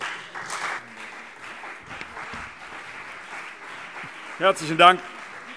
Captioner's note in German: Beifall CDU und BÜNDNIS 90/DIE GRÜNEN